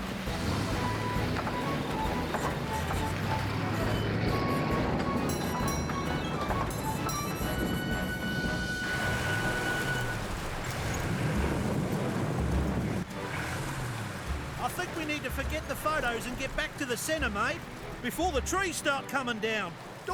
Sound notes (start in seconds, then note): 0.1 train Clatters; 9.3 rain Pounding & Wind Blowing